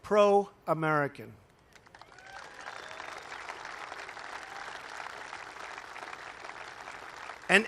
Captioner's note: applause